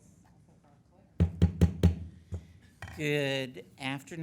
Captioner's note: gavel pounding